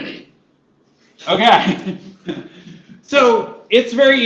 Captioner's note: laughter